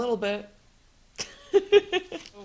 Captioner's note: laughs